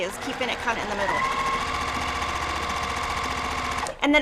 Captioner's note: sewing machine roaring